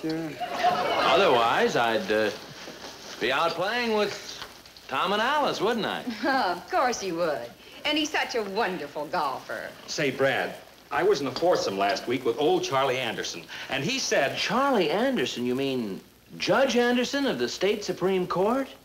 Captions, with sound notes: - Otherwise I'd, uh, be out playing with Tom and Alice, wouldn't I? - (laughs) Of course you would. And he's such a wonderful golfer. - Say, Brad, I was in a foursome last week with old Charlie Anderson. And he said- - Charlie Anderson, you mean, Judge Anderson of the State Supreme Court?